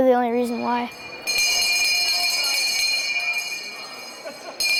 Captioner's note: bell ringing